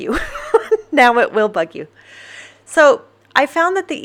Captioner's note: laughs